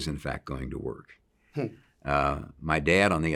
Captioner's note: interviewer laughs